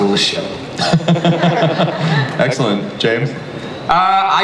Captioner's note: laughs